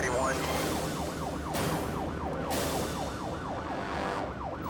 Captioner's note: sirens blaring